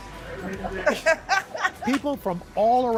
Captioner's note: laughter